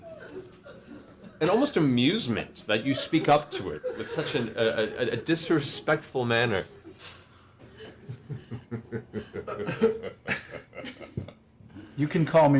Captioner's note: evil laughter